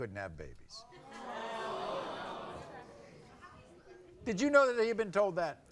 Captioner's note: audience awws